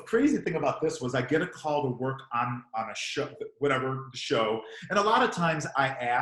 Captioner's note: murmurs